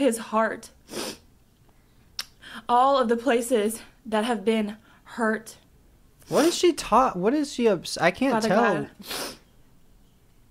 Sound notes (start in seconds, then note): 0.9 sniffs; 2.2 clicks tongue; 6.3 sniffs; 9.0 sniffs